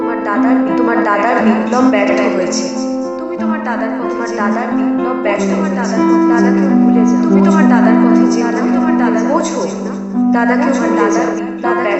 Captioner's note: echo of mother's speech